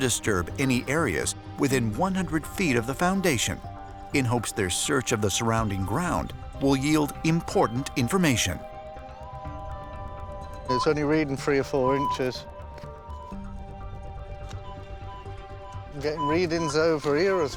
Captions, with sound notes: any areas within 100 feet of the foundation in hopes their search of the surrounding ground will yield important information. [beeping] It's only reading three or four inches. [beeping] We're getting readings over here as well.